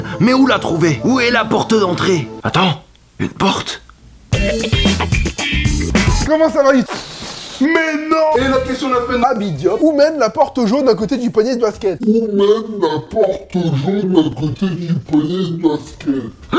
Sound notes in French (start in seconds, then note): 6.6 Ballon se dégonflant